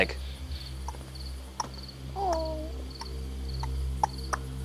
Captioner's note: clicking